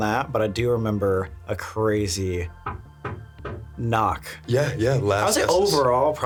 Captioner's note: knocking